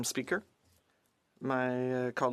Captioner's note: speaking French